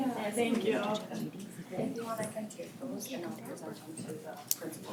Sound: background chatter

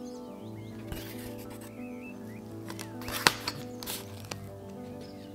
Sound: cardboard rustles

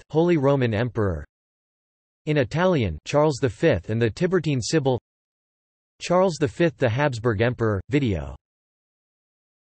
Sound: in Italian

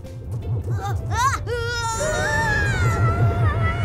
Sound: Nate yells; children yell; ominous music

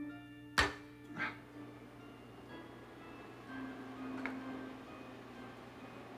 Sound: switch clicks; Donald gasps

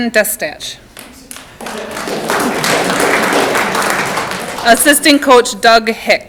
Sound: audience clapping

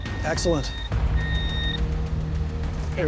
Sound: beeping

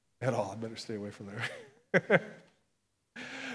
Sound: chuckles

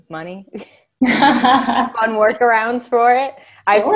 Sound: laughing

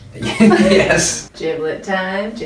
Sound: laughs

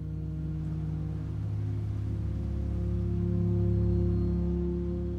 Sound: solemn music; car engine whirs

